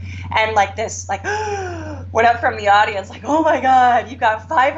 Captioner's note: gasp